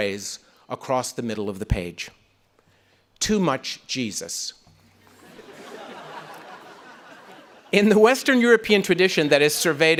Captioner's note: audience laughing